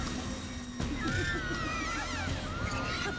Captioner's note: scream